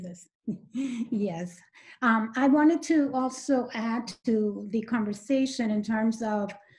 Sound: chuckles

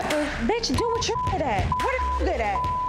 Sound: beep

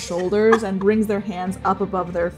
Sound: laughing

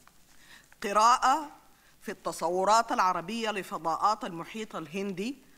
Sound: speaks in foreign language

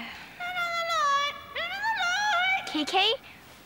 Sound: squawking

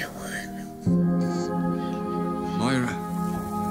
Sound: baby crying

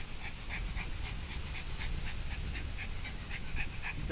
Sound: dog panting

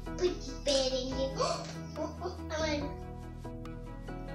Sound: gasps

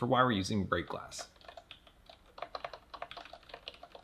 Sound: keystrokes

